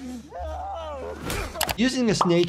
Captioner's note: object thudding; person shouting in pain